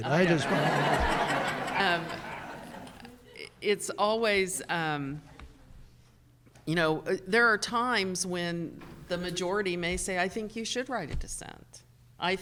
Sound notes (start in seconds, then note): 1.8 audience laughing